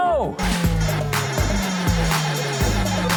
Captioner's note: machine beeping